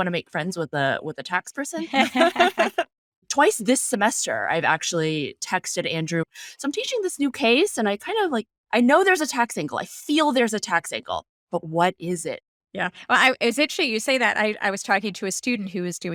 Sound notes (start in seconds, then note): 1.8 laughing